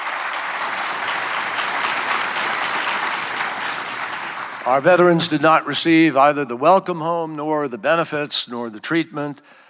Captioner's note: applause